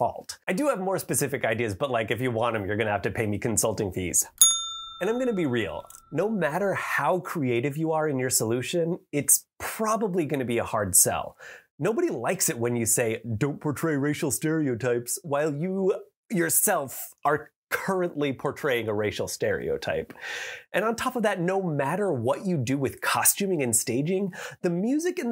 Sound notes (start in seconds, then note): 4.4 ding!